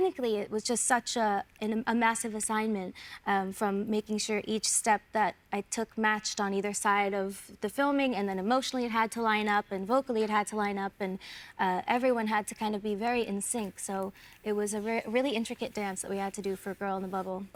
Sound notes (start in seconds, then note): none